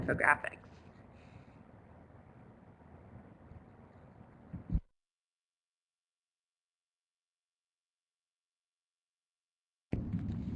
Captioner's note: no sound - switching presenters